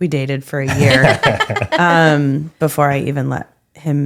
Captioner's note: laughing